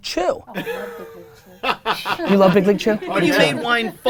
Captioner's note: laughing